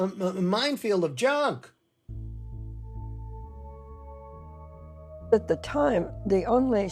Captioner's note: soundbite of tv show, "the open mind"